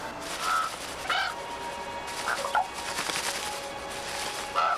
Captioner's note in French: les corbeaux croassent